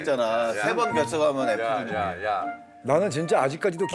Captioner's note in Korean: 재잘재잘